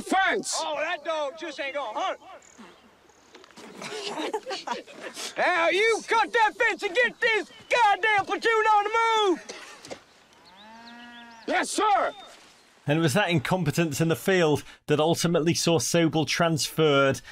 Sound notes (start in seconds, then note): 3.6 soldiers stifled laughing; 5.4 yelling